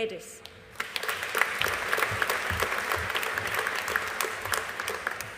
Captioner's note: audience applauding